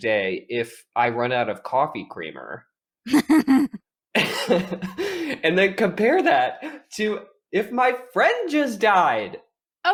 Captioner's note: chuckles